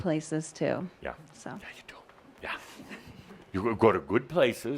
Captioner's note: whispered